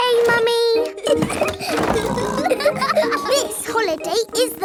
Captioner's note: laughing and snorting